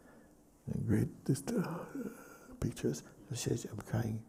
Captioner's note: mimics distress